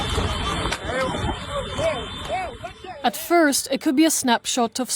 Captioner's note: horse race